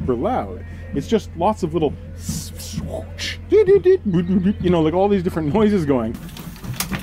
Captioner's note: makes engine noises